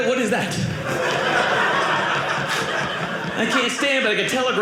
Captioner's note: audience laughing